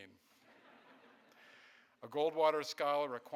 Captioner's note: audience laughing